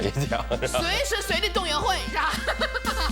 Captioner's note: coughs